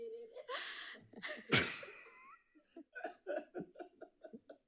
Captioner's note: people laughing